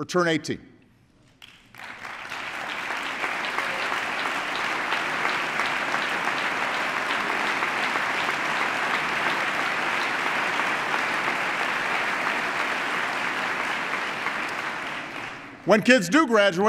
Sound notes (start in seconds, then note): 8.1 applause